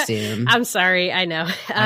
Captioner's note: laughing